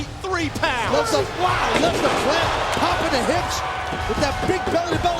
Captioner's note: floor crashing